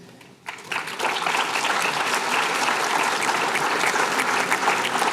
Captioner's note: applause